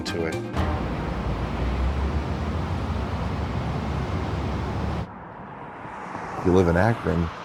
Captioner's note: cars zooming on the highway